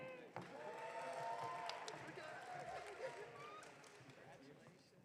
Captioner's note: audience cheering